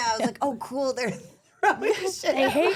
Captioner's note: laughs